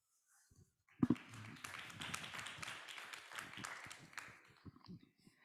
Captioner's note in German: Applaus